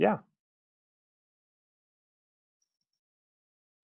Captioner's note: long pause